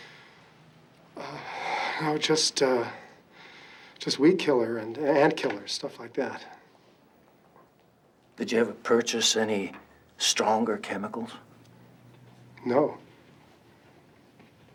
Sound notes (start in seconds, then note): none